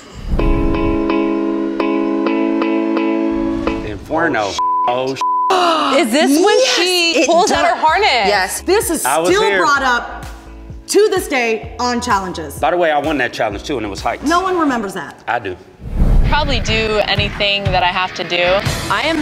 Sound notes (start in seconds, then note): 0.2 upbeat music; 4.6 beep